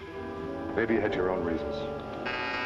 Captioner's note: buzzer ringing